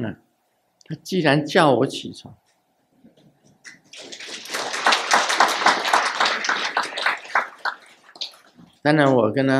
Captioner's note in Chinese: 眾鼓掌